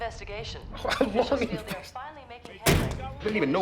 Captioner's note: mocks laughs